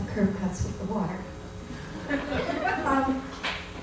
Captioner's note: laughter